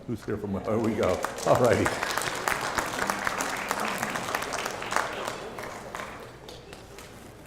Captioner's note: applause